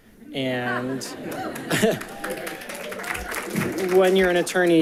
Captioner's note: people giggling